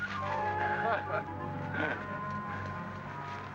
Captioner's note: chuckles; soldiers laugh